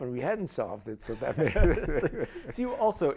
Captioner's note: laughter